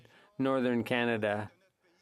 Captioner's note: speaking French